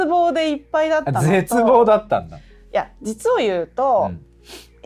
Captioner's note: laughs